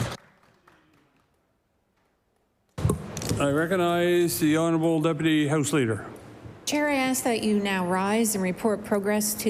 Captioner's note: applause